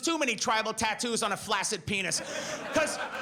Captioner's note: audience laughs